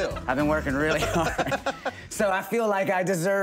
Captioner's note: laughing